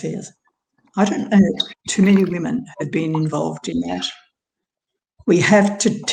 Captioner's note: audio distorts